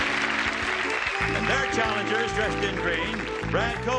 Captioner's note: audience claps